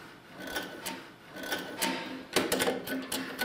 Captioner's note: creaking